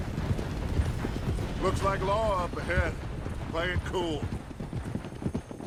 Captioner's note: A train is heard approaching